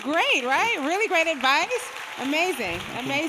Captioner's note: people clapping